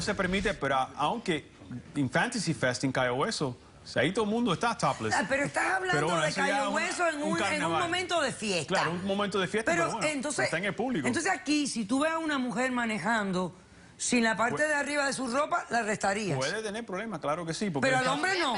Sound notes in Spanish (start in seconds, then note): none